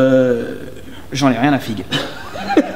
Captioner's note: giggles